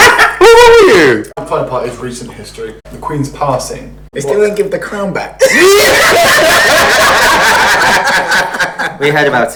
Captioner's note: laughs